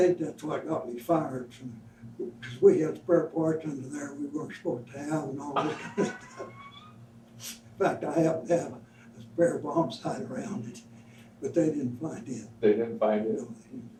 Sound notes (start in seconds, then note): 5.5 both laugh